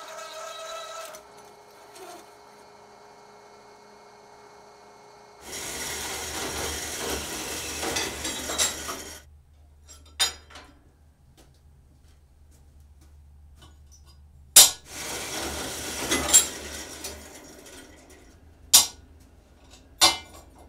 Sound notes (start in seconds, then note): 0.0 grinding; 10.4 clanking